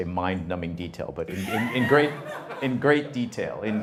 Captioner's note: audience laughter